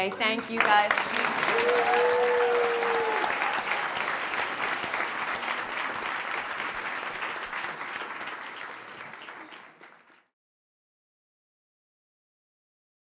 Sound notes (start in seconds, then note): 1.7 audience applauding